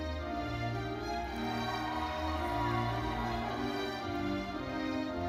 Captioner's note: audience cheering and applauding; orchestral music continues